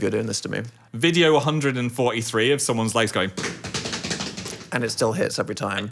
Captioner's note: stomping